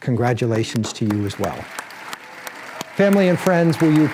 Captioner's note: applause